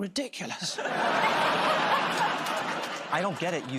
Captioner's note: laughter